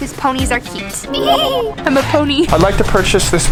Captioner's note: neighing